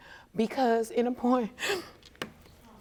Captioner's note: sobbing